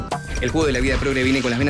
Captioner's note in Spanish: Locutor, muy rápido